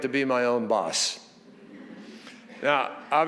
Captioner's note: audience chuckles